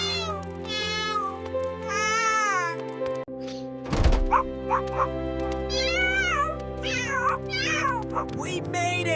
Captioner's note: crying; crying and screaming